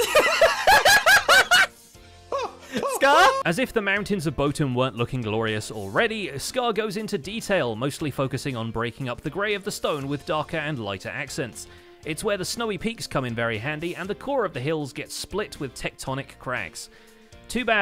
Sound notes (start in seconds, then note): 0.0 mic-peaking laughter; 2.1 startled shouting; 2.4 screams